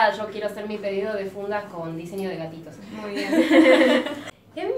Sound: laugh

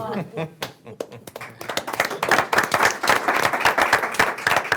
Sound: group applauding

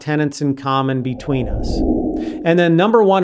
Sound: frame whooshing

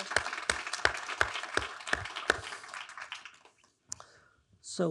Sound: attendees applauding

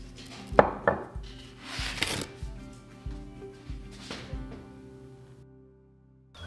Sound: gentle scraping

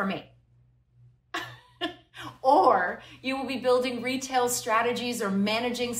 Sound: laughter

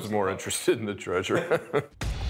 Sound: laughter

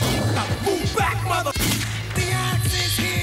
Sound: shot fires

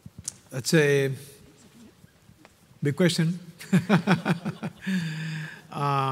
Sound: laughing

